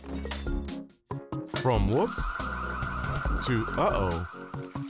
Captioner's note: fire alarm blaring